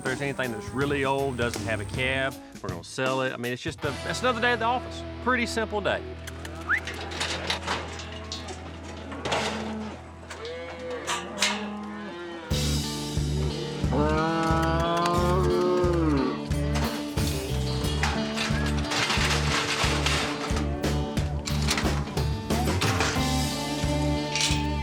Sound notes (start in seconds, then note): 6.5 gate clanking; 6.6 whistles; 10.2 cattle mooing; 18.2 gate clanking